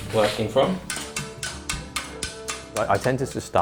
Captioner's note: gentle music; hammer thudding